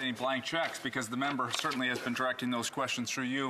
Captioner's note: speaking French